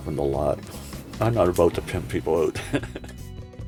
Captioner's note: laughs